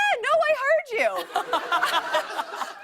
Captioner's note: laughter